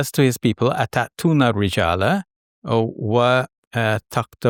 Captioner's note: speaks Arabic